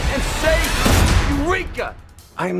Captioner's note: gunshot